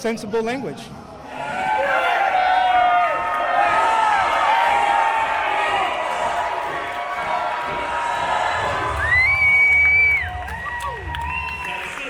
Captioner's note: applause and chanting